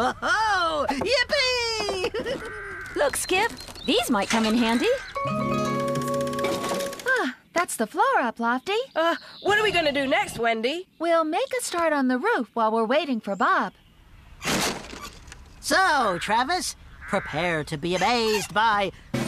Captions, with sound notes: WHOA-HO, YIPPEE! LOOK, SKIP! THESE MIGHT COME IN HANDY. ( Sigh ) OH, THAT'S THE FLOOR UP, LOFTY. UH, WHAT ARE WE GOING TO DO NEXT, WENDY? WE'LL MAKE A START ON THE ROOF WHILE WE'RE WAITING FOR BOB. SO, TRAVIS. PREPARE TO BE AMAZED BY...